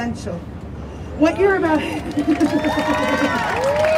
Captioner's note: crowd cheers